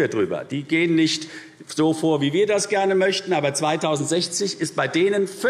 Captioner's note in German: none